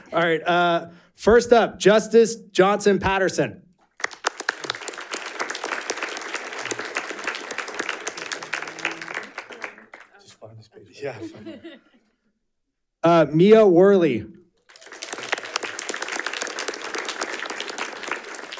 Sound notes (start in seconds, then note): 3.9 audience applauding; 9.2 speaking faintly; 14.6 audience applauding